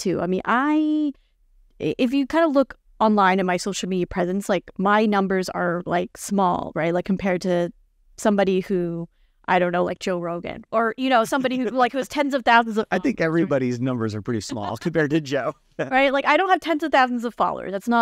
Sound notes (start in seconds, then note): 11.1 laughing